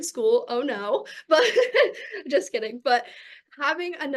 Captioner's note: chuckles